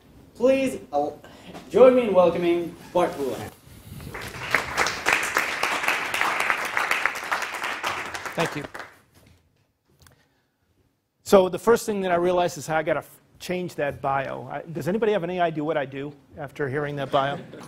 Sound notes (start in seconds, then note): 4.0 applause; 17.1 laugh